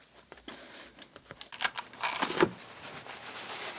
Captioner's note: clattering, rustling